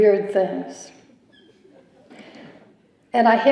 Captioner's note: chuckling